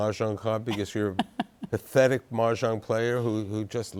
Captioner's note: laughs